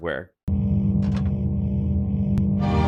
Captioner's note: electrical humming; majestic orchestral music